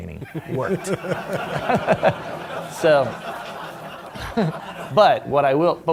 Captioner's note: laughter